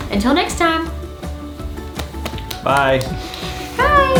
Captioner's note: clapping